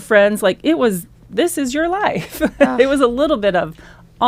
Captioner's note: laughs